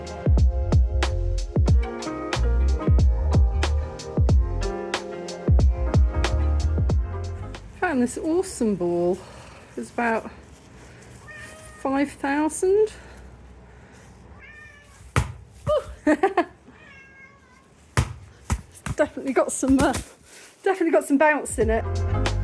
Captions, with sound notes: [chill music] Found this awesome ball. It was about 5,000. [ball bouncing] [laughing] [cat meowing] It's efinitely got some, uh, definitely got some bounce in it.